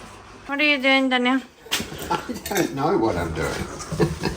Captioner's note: laughs